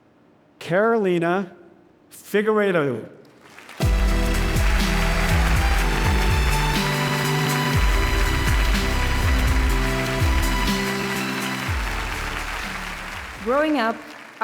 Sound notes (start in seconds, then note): 3.2 upbeat music; 4.5 audience cheering and applauding